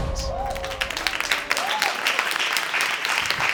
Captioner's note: audience applauding